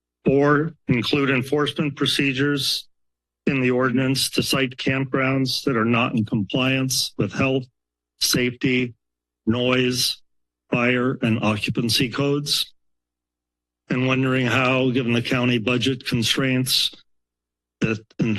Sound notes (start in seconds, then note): 12.8 pause